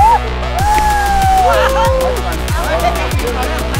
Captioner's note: cheering and hooting